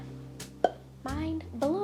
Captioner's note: popping